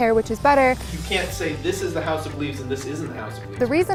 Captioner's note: professor speaking